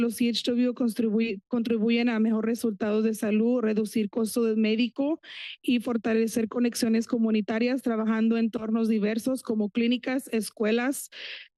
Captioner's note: foreign language